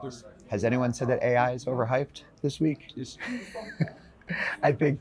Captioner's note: chuckles